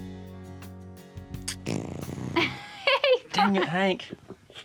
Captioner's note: horse passes gas, laughs